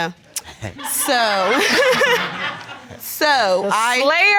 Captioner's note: laughs